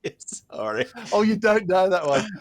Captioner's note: laughter